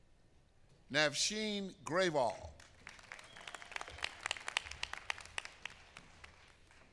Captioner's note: applause